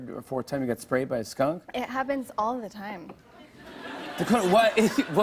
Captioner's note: laughter